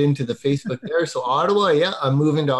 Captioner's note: laughing